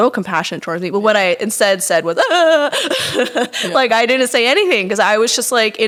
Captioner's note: crying noises